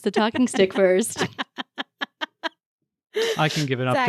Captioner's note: laughing